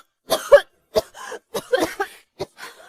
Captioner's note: cough, cough, cough